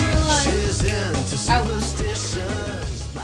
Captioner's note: snaps fingers